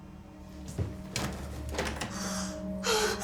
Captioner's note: door clattering; Dorothy gasping